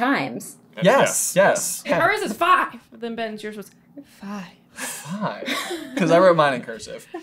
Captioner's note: breathy